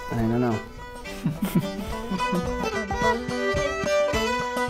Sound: laughing

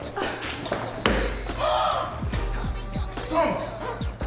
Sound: gasping lightly

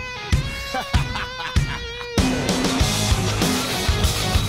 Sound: laughs

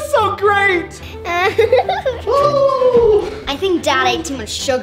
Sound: Cupid laughing

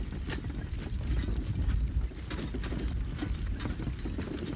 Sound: wagon jingling

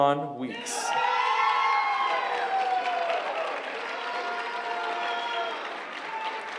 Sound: cheering

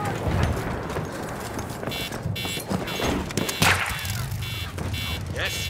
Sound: car horns and gunshots

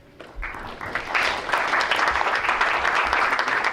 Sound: crowd applauds

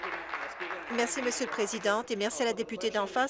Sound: applause

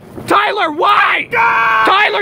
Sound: screaming

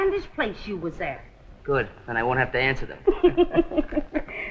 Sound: chuckles

